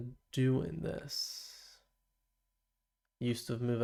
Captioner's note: silence